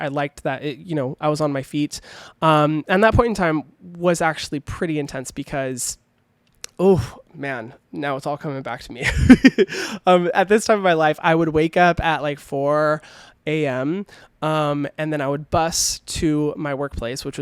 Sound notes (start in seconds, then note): 9.0 laughing